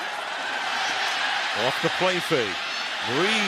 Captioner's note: cheering